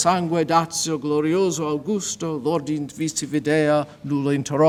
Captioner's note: speaks foreign language